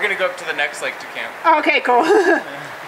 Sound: laughs

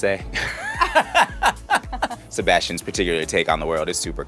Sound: laughs

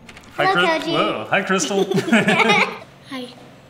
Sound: laughs

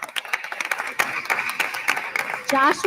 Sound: attendees continue applauding

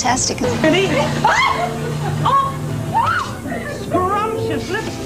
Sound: laughter; shrieks

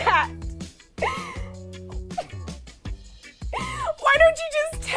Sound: crying

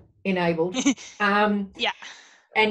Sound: laughs

